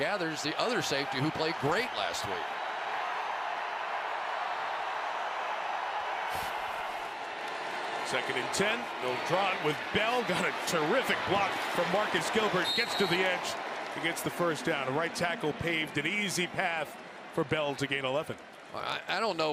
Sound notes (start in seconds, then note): 3.2 crowd cheering